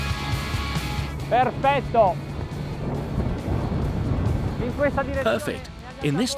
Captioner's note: upbeat rock music; speaking foreign language